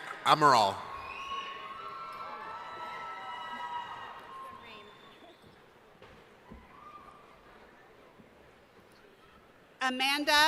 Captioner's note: cheering